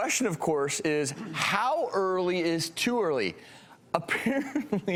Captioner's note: chuckles